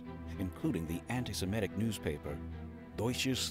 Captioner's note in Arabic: يتحدث الألمانية